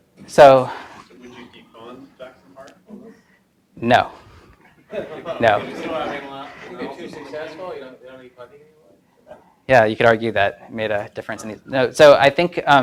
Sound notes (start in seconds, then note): 4.8 audience laughs